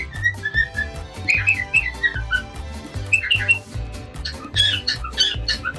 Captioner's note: cockatiel continue singing